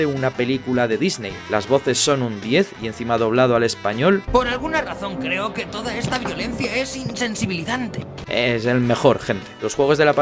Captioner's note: and on top dubbed into Spanish